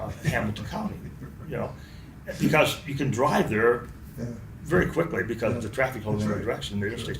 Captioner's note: laughs